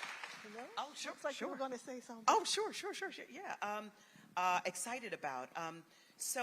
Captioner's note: applause